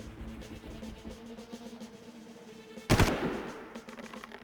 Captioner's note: gun firing